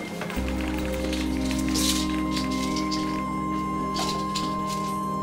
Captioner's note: pills rattling